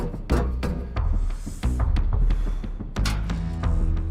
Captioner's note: deep breath